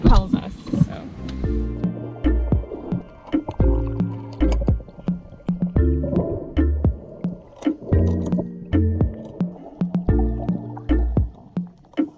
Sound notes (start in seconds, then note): 1.9 uplifting music; 7.4 anchor clanking